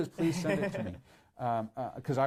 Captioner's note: laughs